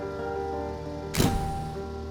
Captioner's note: light piano music; camera shutter clicking; light piano music